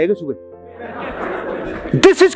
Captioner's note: laughing